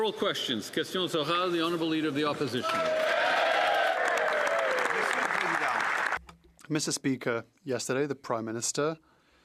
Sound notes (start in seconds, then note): 0.0 applause; 4.8 speaking French